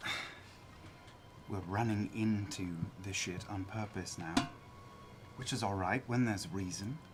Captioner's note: sighs